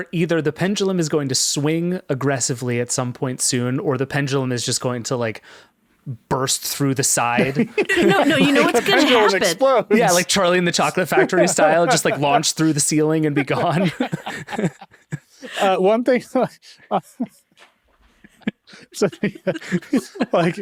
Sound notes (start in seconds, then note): 13.2 laughing; 18.2 group laughing; 18.2 laughing